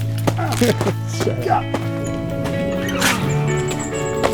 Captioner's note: grunting